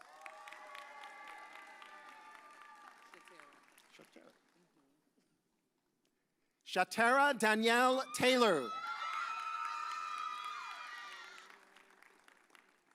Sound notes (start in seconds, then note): 0.0 audience cheers; 7.7 audience cheers